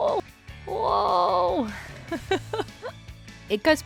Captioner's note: laughs